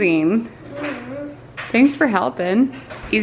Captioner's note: murmurs